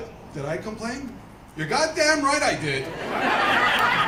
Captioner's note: laughter